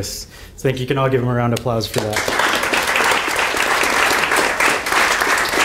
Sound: audience applauding

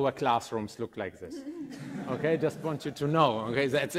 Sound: group laughing

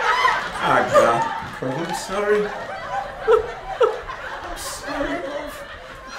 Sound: audience laughter; sobbing; weeping

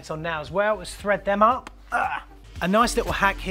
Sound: groans

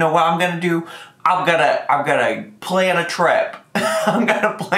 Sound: laughs

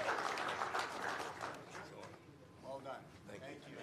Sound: applause

